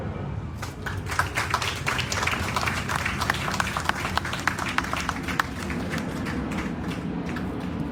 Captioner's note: applause